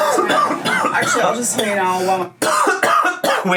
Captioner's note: coughing